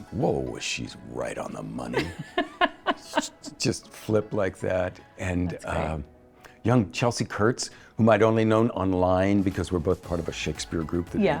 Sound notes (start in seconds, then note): 1.9 laughs